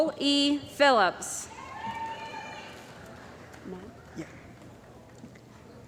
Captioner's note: cheering & Applause